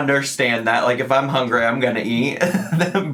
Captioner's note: chuckles